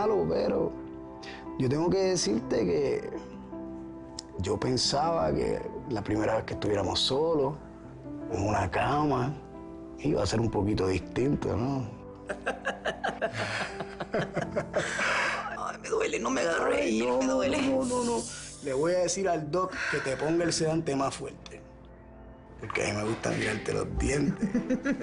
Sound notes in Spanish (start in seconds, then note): 12.2 Risas